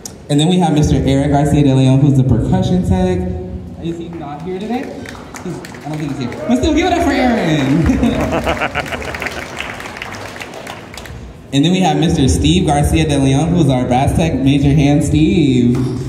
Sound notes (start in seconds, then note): 7.4 cheers and Applause; 7.8 laughter; 8.0 camera operator Laughs